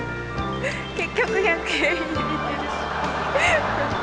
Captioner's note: laughs; speaks in Japanese; laughs